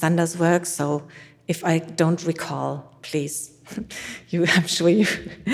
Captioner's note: chuckles